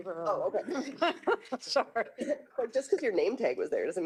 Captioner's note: laughing